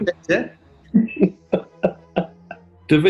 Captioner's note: chuckling